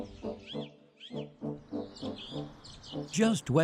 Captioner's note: stately music; birds chirping